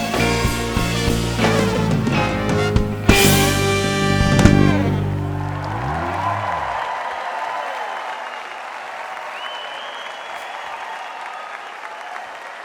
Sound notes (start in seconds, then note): 5.6 audience applauding; 5.6 audience cheering